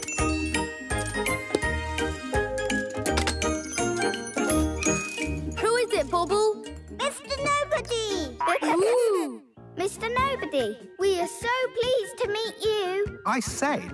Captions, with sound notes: - Who is it Bobble? - Mister Nobody. (giggling) - Mister Nobody, we are so pleased to meet you.